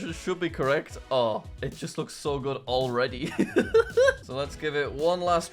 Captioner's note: laughs